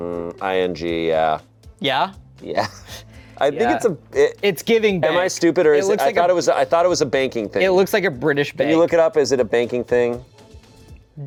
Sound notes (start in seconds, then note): 3.6 laughs